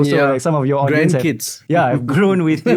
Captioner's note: laughter